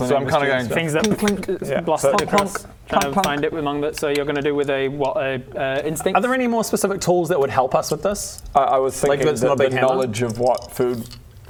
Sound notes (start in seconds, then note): 0.8 clunk clunk; 0.8 clink clink; 1.9 clank clank